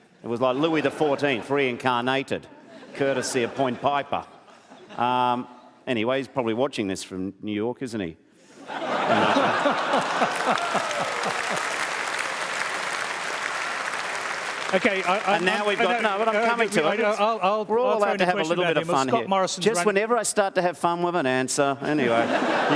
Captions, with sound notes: It was like Louis XIV reincarnated, courtesy of Point Piper. Anyway, he's probably watching this from New York, isn't he? (LAUGHTER) Hey, Malcom. (APPLAUSE) OK. I... Now, we've got... I'm coming to it. I want to throw in a question... We're allowed to have a little bit of fun here. Scott Morrison's running... Just whenever I start to have fun with an answer.